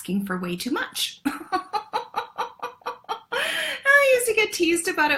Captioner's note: laughs